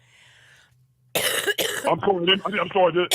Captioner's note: coughs